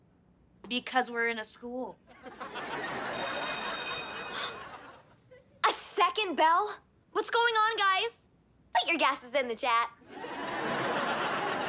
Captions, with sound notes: Because we're in a school. [bell ringing] [gasps] A second bell? What's going on, guys? Put your guesses in the chat.